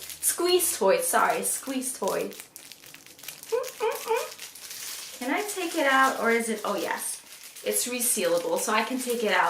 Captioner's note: squishing sound